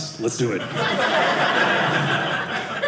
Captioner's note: audience laughing